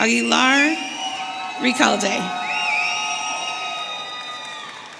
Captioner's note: audience cheering